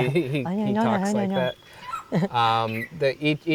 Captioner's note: laughs; imitating bird